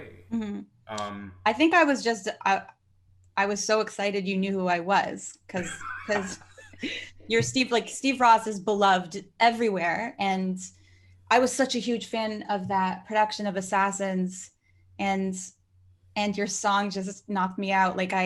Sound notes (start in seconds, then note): 5.5 laughing